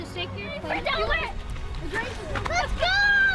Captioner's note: excited children chatting